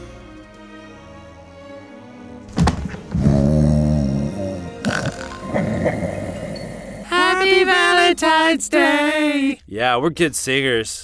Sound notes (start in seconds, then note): 2.5 thump